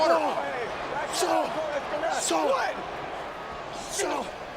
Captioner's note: wrestlers yelling